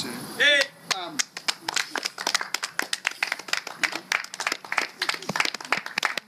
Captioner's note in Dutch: cheers ~ applause